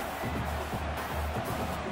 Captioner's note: crowd cheering